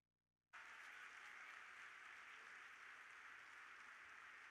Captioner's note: audience applauding